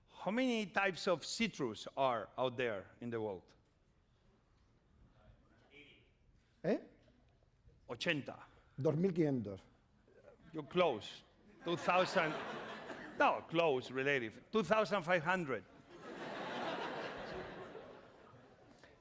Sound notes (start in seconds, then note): 8.3 speaking spanish; 15.7 laughter